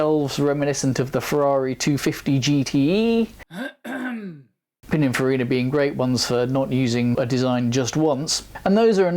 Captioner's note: coughs